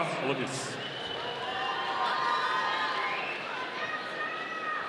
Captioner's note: audience cheering